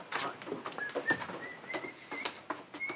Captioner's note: whistles